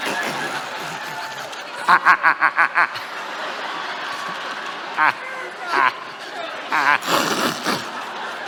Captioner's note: La risa